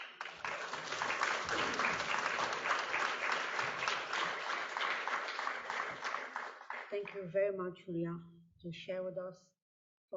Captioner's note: applause